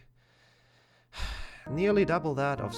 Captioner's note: sighs